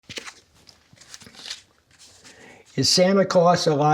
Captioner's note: cards rustling